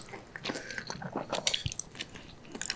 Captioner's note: gulp